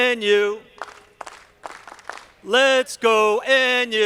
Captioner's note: audience clapping